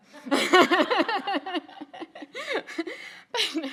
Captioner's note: people laughing